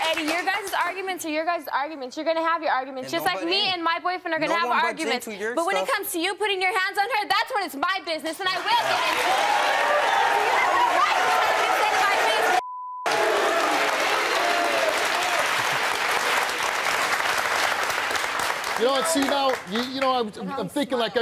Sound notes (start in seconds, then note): 8.6 audience cheers loudly; 13.0 audience cheers